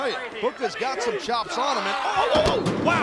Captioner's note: steel steps booming